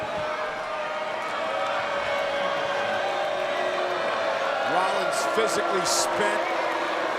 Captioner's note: applause